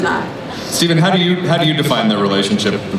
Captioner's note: voiceover